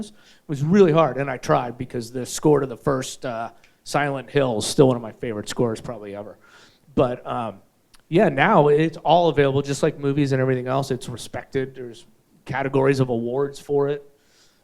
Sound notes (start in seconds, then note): none